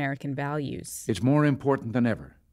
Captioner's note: soundbite of archived recording